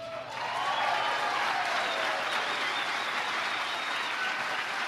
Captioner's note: audience applauding